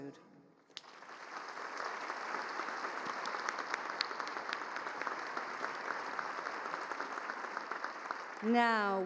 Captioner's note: applause